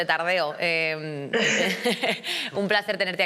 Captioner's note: she laughs